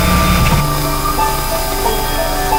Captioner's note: radio Interference; radio Cuts Out